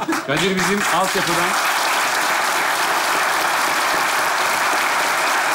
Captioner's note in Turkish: Alkış sesleri